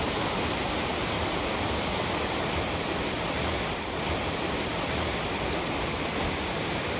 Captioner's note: water rushing